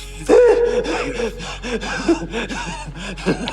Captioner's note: sobbing